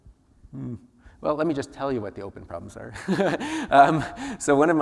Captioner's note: laughs